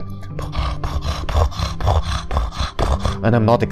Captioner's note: fast purring sounds